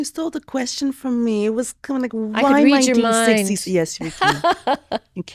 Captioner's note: laughs